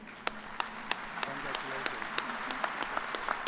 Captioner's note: applause